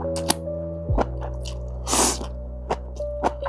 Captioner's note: slurp